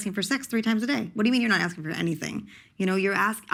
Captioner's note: none